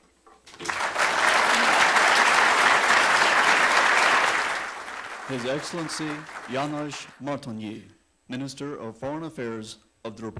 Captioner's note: applause